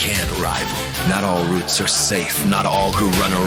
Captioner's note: reporters panic in background